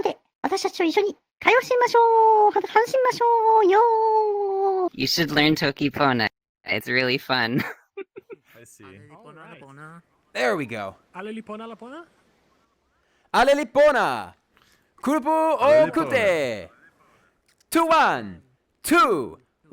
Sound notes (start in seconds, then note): 7.5 laughter; 10.4 indistinct chatter